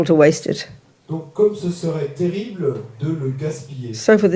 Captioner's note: French